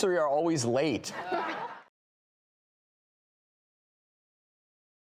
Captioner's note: all laughing